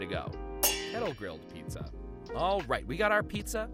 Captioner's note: metal clangs